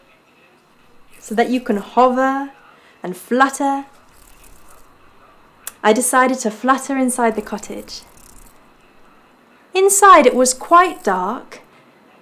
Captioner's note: zzzt